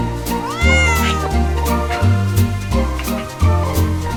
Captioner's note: cat meowing